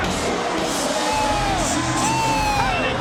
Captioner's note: announcer vocalizing